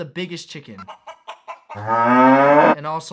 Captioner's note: clucking